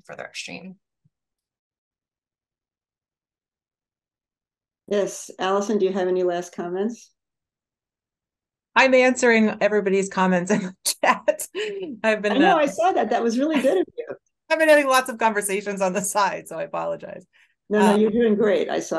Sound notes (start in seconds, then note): 11.4 laughs